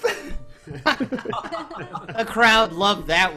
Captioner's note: all laughing